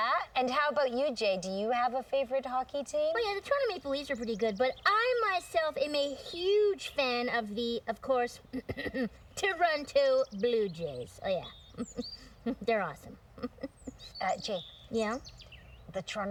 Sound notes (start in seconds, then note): 8.6 clearing throat